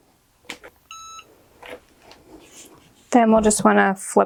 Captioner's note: machine beeps